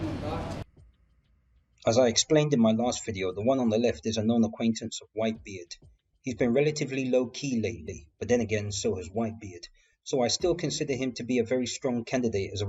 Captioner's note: car